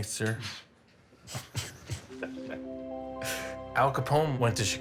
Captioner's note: both chuckling